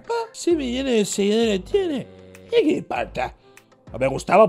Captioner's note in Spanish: acento argentino